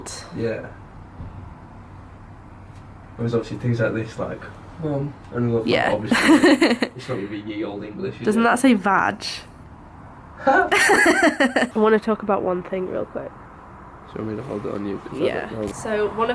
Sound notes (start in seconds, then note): 6.0 laughs; 10.6 both laugh